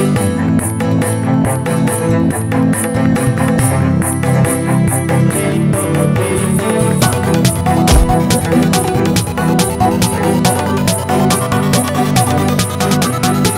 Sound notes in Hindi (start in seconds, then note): none